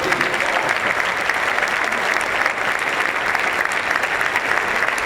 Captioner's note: applause